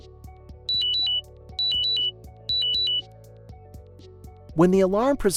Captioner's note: beeping alarm sounds